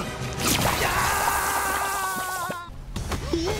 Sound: shouts

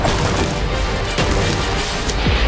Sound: smashing materials

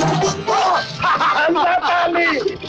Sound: laughs

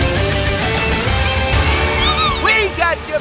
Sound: screaming

